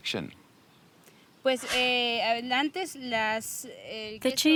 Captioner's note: speaks in spanish